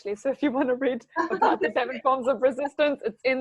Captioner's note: laughing